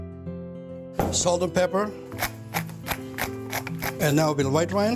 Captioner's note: pepper grinding